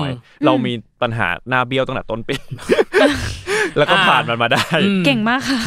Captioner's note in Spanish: Risas